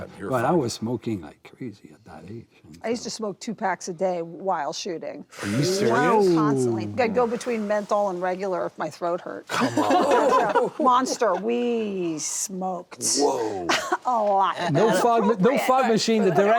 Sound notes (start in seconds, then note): 9.5 all laugh